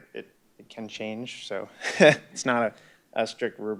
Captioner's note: laugh